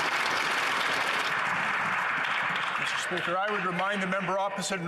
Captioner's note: some Applause